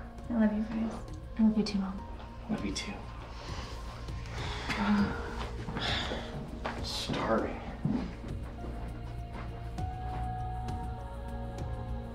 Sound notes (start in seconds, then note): 3.4 sighs; 8.0 tense gentle music